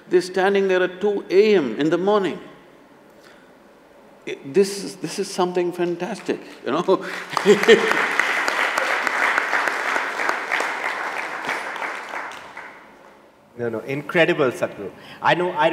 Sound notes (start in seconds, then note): 10.4 laughs; 11.8 applause